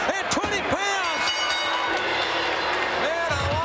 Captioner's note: bell rings